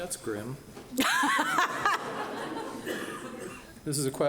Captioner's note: laughing